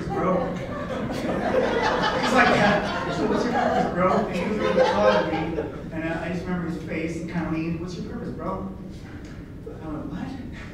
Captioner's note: laughter